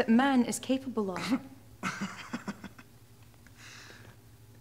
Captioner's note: Martin laughing